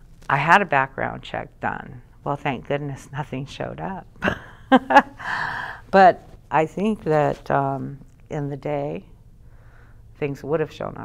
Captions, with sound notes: I had a background check done. Well, thank goodness nothing showed up. (laughs) But, I think that in the day, things would have shown up.